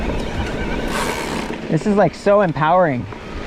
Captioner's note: bike ratchets